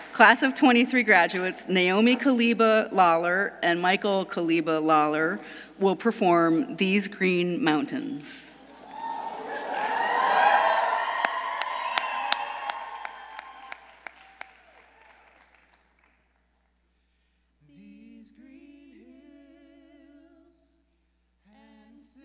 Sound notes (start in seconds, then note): 8.7 audience cheering; 8.7 audience applauding